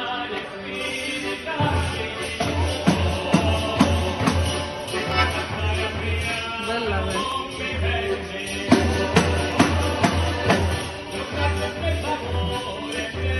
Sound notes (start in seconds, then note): 3.1 tambourine banging; 7.5 speaking in foreign language; 9.8 tambourine banging